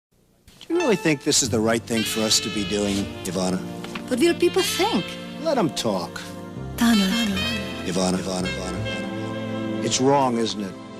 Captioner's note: sound of commercial